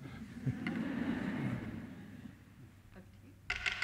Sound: laughter

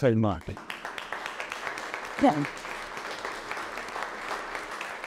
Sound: audience applauding

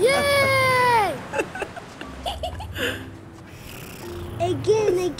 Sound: giggling

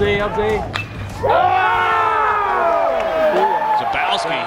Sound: cheering

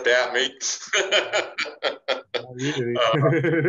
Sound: laughing

